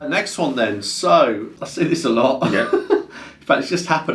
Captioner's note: laughs